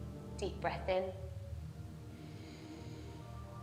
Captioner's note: inhales